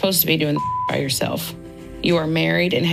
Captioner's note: beeping sound